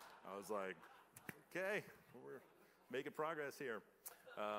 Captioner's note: laughter